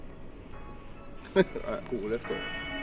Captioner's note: soft hiphop music; chuckles